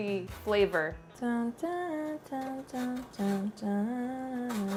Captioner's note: humming